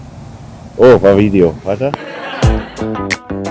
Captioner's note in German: Gelächter